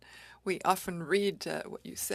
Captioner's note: speaking French